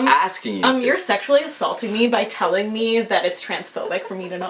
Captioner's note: mockingly